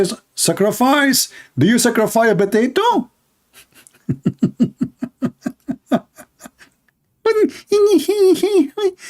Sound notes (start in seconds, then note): 3.5 Ketawa